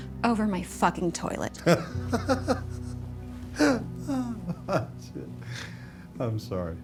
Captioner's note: laughter